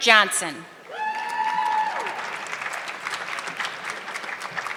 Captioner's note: audience clapping